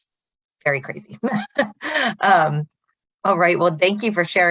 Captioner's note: laughs